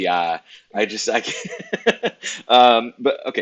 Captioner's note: laughs